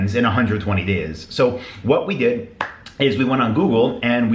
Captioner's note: hands clap